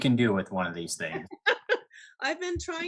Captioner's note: laughs